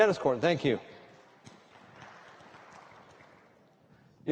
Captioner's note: applause